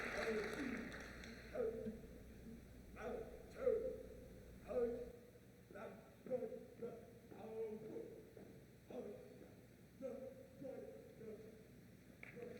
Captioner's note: JROTC count marching steps